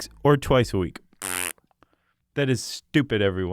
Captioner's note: blows raspberry